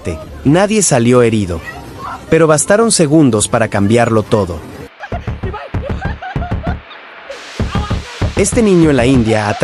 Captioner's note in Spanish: risas